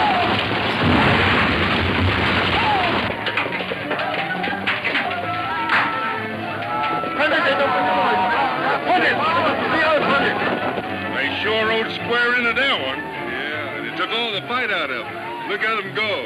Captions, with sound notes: (explosion booms) (shouting in foreign language) They sure rode square into that one. - Yeah, and it took all the fight out of 'em. Look at 'em go.